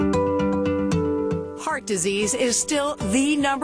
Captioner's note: voiceover